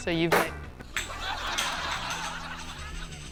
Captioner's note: laughter